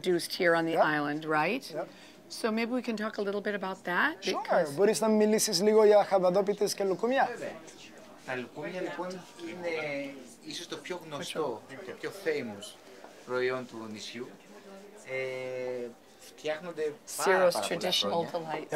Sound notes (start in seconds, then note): 4.9 speaking Greek